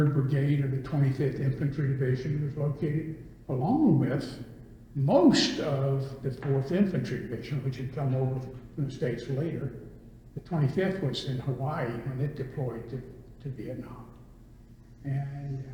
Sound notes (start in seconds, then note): none